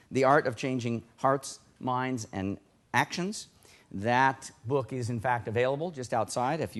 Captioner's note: none